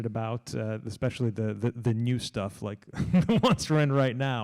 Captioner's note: laughs